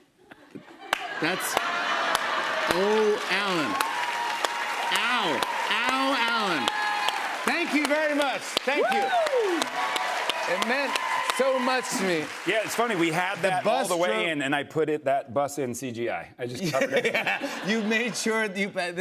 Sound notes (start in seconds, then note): 7.3 cheers and applause